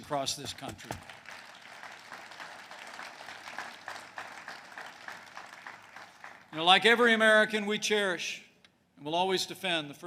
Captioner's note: applause